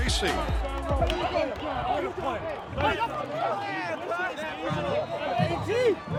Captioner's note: sideline chatter